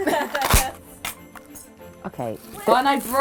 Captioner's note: laughs; cracker pops